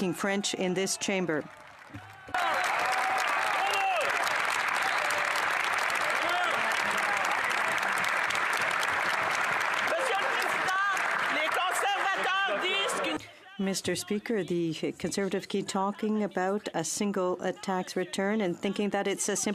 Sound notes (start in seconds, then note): 5.0 some Applause